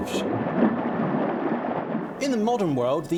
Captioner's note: water sloshing